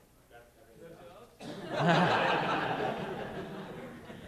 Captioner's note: laughter